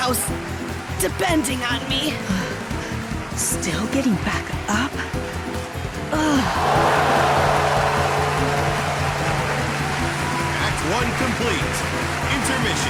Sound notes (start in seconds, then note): 4.6 gong